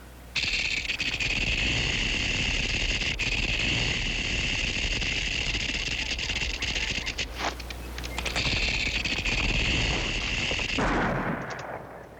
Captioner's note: rattling